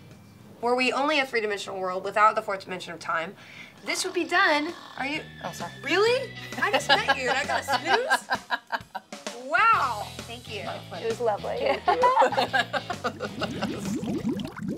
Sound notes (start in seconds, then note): 3.9 snoring; 9.3 laughter; 13.5 laughter